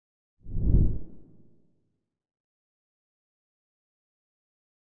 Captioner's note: logo whooshing